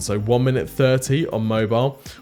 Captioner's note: none